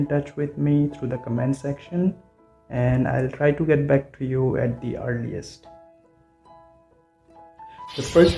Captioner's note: bird chattering